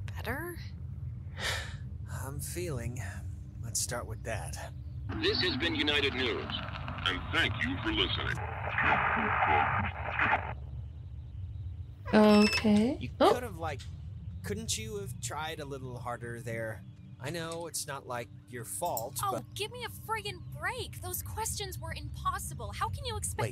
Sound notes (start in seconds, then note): 4.3 radio